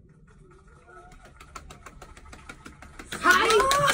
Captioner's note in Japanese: 拍手